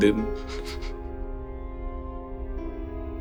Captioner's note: Arthur laughs; Charles and Arthur laugh